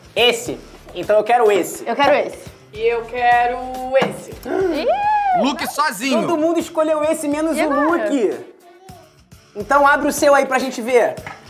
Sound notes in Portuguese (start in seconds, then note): 4.4 faz som de surpresa